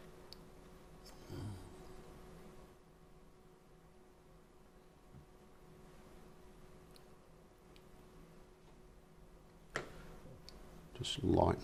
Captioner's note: silence